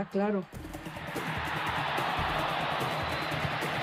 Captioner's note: crowd cheers